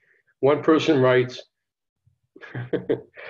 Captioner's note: chuckling